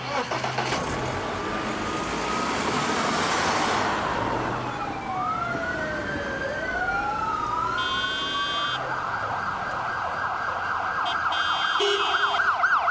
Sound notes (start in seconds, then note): 0.1 engine revving; 0.1 sirens wailing; 7.7 cars honking